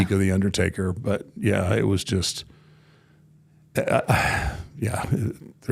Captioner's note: sighs